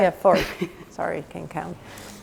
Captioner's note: laughing